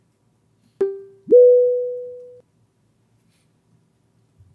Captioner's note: computer tone chimes